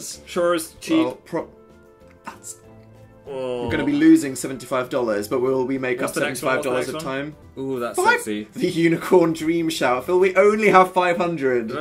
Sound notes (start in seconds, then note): 2.8 gag; 8.7 laughing